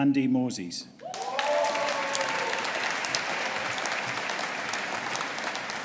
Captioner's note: audience applauding and cheering